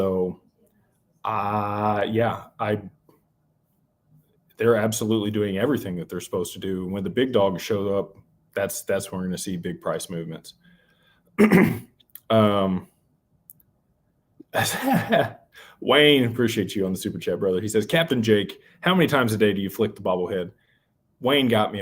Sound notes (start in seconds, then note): 11.4 clears throat; 14.6 laughter